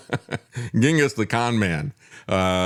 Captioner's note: laughs